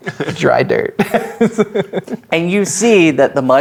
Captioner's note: laughing